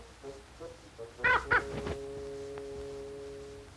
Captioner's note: caw